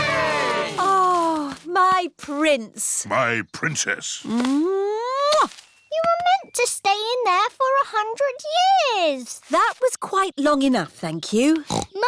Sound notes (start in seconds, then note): 0.0 all cheering; 4.7 kisses; 11.6 snorts